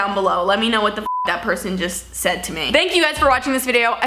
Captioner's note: beep